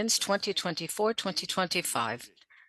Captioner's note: speaking French